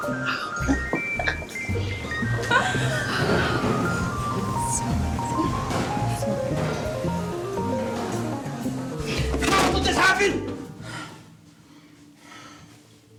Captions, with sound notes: (giggling) How could this happen? (sinister music)